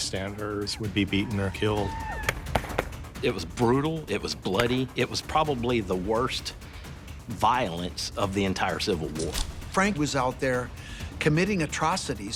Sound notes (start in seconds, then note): 2.0 guns firing